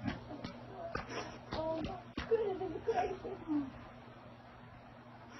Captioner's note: joyful laughing